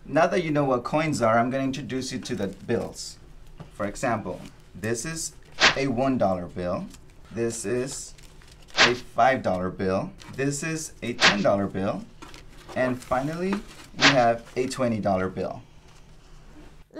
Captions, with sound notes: Now that you know what coins are, I'm gonna introduce you to the bills. For example, this is a one dollar bill. (swoosh sound) This is a five dollar bill. (swoosh sound) This is a 10 dollar bill. (swoosh sound) And finally, we have a 20 dollar bill. (swoosh sound)